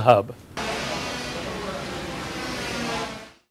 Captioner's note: workers chatter; saws grind